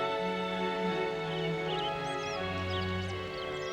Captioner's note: birds chirping